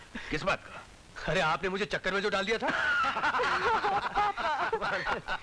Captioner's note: Laughs